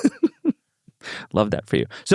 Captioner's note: laughs